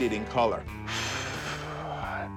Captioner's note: exhale